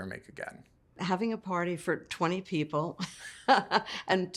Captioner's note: laughs